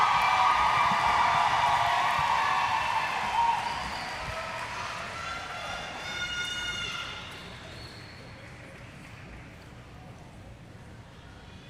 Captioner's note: applause; cheers